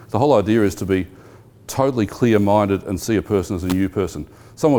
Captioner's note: none